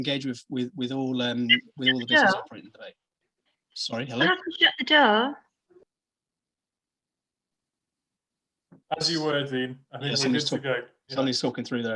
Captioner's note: noise interruption